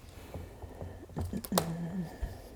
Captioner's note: hum of finding